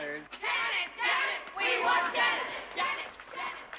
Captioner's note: Зрители скандируют